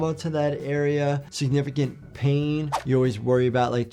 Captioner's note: audio whooshes